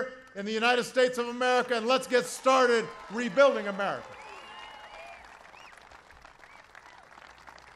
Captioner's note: applause